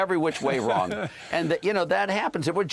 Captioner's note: laughter